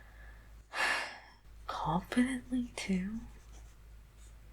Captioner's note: sigh